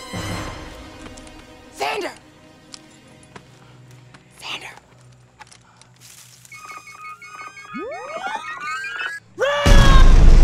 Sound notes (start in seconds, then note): 2.1 harsh whisper; 4.9 whisper; 7.1 rapid beeping